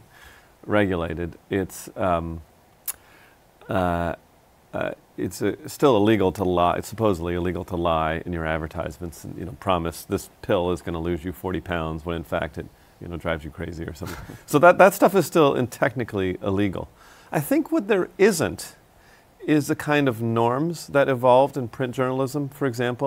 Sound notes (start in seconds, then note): 14.0 laughs